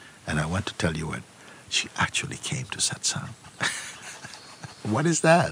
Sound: laughs

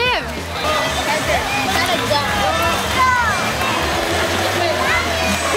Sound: yelling in the background

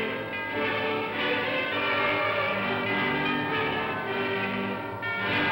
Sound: bells ringing; music plays

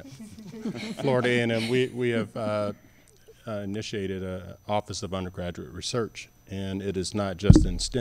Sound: laughter

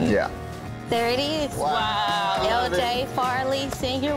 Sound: both exclaiming

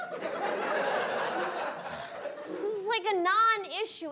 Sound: audience laughing

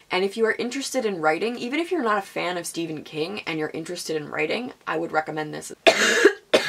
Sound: coughing

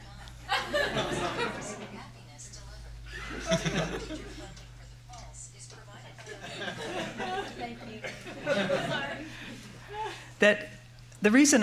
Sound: laughter

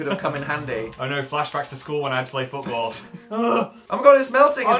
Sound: scared noise

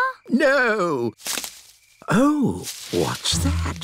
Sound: rustling

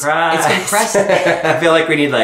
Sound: laughing

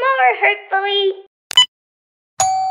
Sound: click!; doorbell rings

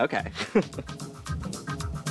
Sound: chuckles

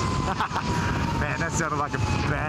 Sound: laughter

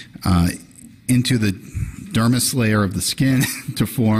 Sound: quick laugh

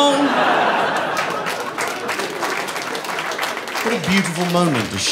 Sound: applause

